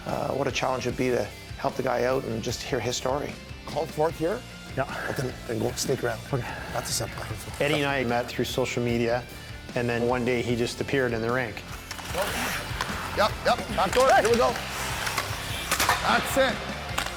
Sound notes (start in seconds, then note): 7.8 murmurs